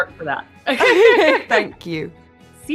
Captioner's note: laughter